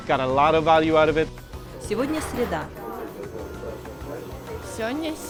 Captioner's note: Russian